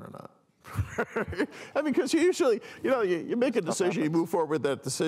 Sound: laughs

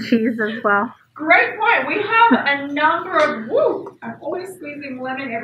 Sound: screams

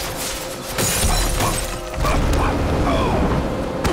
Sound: grunting

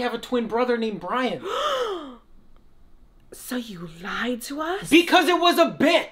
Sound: gasps

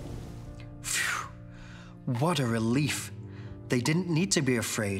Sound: sighs

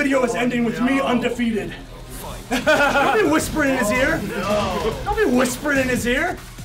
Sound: laugh

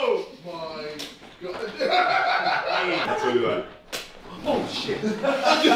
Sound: laughing

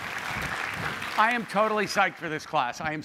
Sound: applause

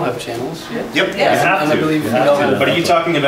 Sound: multiple assent

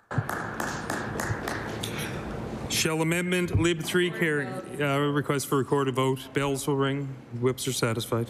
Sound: some Applause

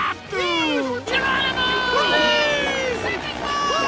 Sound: all shouting and cheering

